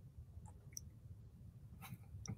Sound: mouse clicking

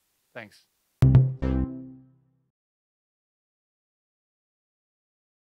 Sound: cheerful chiming

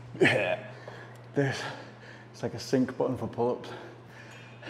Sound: laughs

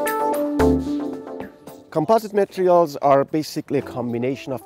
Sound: voiceover

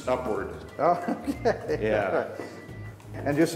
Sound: laughs

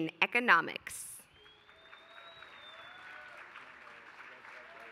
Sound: applause

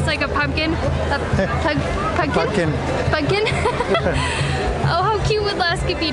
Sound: laughter

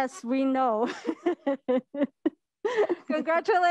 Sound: laughing

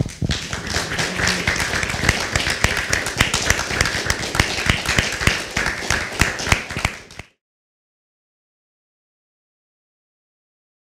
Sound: applause

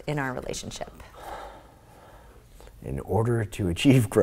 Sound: sighs

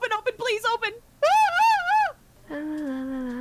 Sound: scared howling?

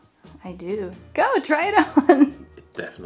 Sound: chuckles

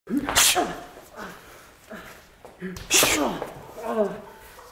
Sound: armored man grunts

